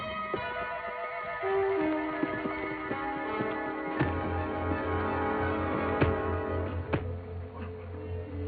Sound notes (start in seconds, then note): 5.9 punching